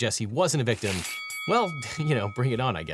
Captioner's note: bell dings